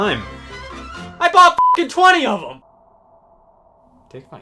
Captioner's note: beep